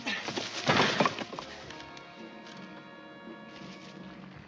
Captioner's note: wood cracks